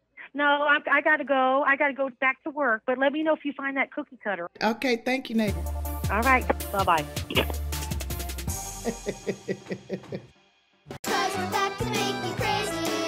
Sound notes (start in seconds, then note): 8.8 laughs; 11.0 upbeat music